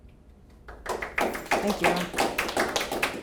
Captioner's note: audience clapping